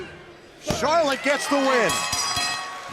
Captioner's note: bell ringing